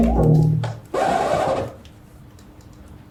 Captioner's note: record scratch